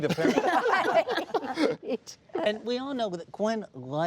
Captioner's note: laughing